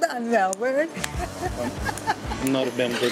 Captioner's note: laughs